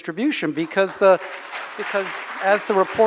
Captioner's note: audience applauding